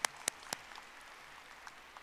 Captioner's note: audience applauding